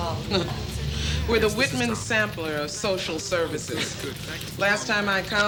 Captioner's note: chuckles